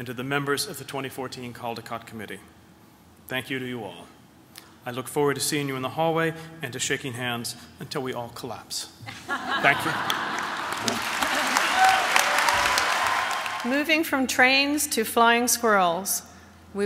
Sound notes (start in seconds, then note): 11.6 applause